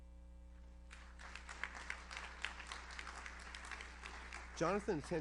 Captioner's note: audience applauds